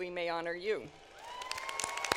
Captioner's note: applause